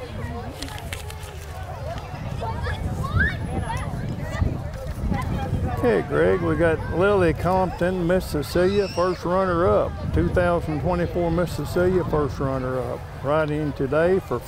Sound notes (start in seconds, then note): 2.1 chattering continues; 2.1 wind blows